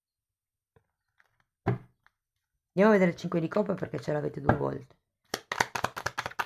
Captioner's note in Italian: Applauso